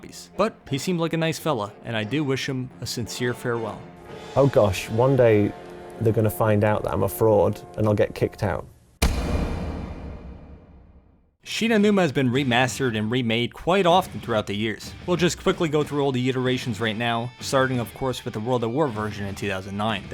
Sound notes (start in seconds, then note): 9.0 thud sound effect